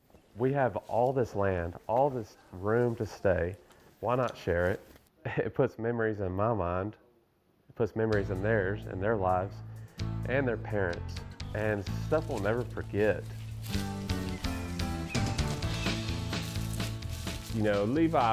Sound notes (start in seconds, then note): 8.2 upbeat music plays; 13.4 music increases tempo; 14.1 leaves crunch